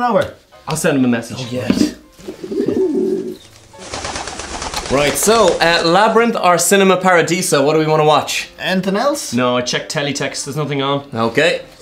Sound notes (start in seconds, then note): 2.2 sound of a Pigeon; 3.5 sound of a bird flying away